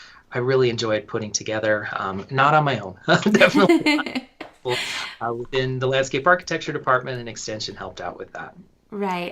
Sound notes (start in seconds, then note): 3.2 laughter